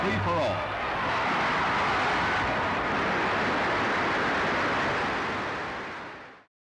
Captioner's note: crowd cheering and applauding